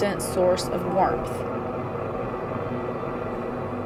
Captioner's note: fan blowing